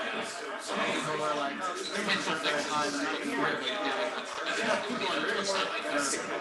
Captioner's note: people chattering indistinctly